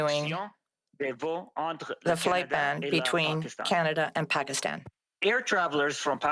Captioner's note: speaking French